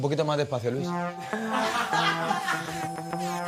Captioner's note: laughs